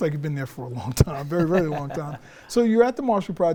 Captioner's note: laughs